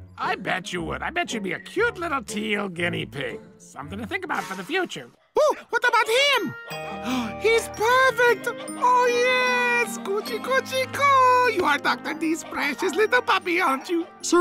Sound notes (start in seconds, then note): 8.2 gasps